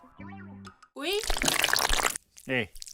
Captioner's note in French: bruits de tentacules